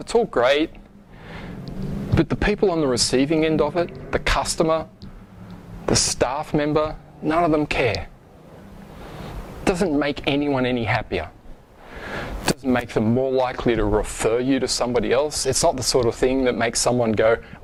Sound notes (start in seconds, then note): none